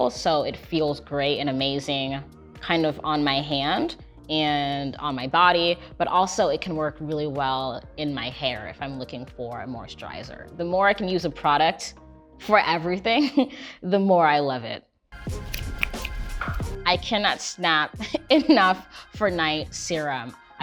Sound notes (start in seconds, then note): 15.3 fast snaps